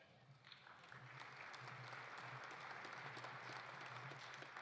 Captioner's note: audience applauding